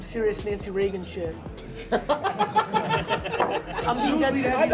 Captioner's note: laughter